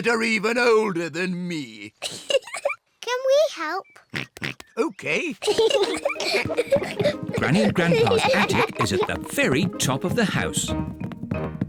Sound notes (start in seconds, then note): 0.0 laughs; 2.0 giggles; 4.1 oinks; 5.3 peppa and george giggle